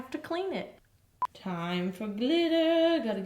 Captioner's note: beep